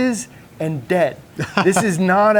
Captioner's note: chuckles